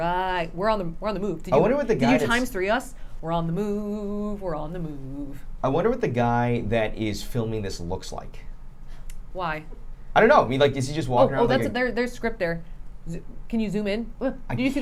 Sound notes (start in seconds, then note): none